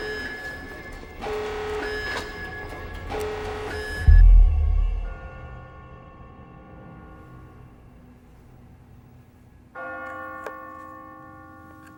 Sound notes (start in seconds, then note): 0.1 tense music continues; 5.6 bell tolling